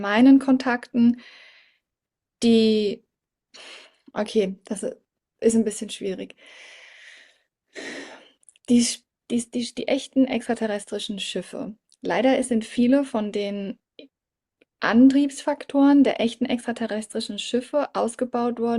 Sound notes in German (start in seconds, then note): 6.4 japst; 7.7 seufzt